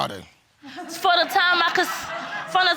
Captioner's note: audience laughing